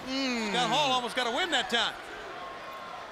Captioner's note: crowd chatter